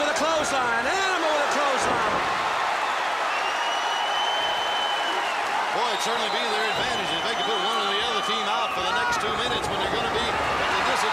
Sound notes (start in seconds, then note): 0.6 crowd chatter; 10.0 crowd cheering